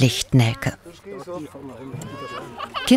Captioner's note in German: Stimmengewirr